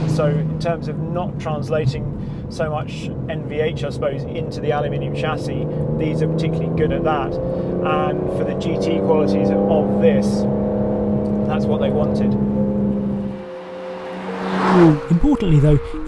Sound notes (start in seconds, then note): 13.7 car zooming